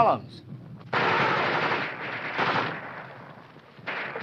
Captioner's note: guns firing